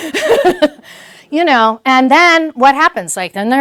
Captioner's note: laugh